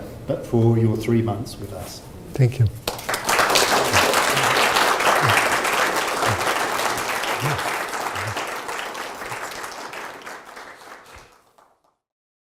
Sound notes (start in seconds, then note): 2.8 audience applauding